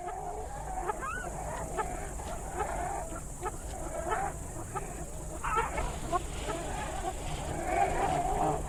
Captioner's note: jungle sounds